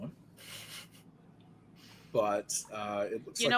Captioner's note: snickering